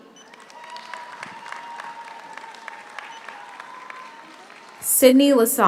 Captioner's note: audience applauds; audience cheers